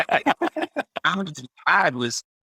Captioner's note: laughs